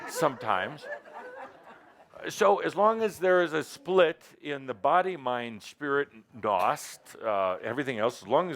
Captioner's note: laughter